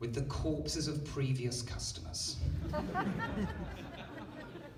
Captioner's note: laughter